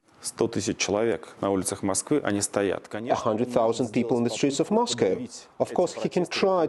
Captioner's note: through translator